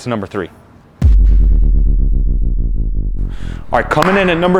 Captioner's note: descending tone